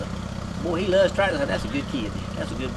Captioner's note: tractor engine putters